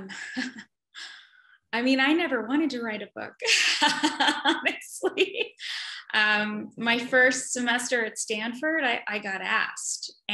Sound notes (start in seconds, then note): 6.0 laughs